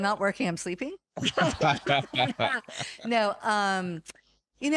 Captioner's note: laughing